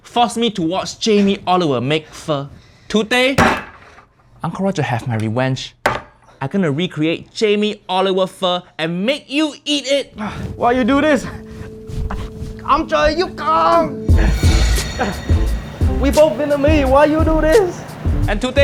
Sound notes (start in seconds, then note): 5.9 taps; 12.7 speaks Vietnamese; 14.2 graphics whooshing